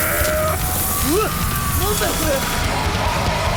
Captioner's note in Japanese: 電流が走る音; バンド演奏; 稲子:デスボイス加工音声